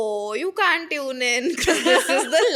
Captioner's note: laughing; laughs